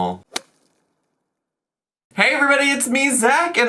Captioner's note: whip cracking